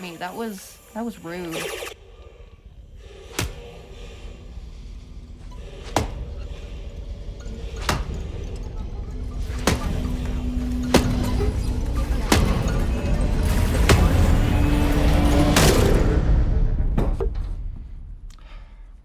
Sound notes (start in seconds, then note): 3.4 sound of chicken being pounded; 10.3 eerie horror sounds